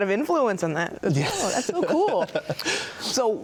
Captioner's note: laughs